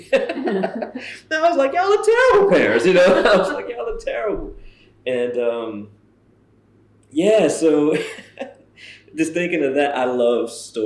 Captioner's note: laughter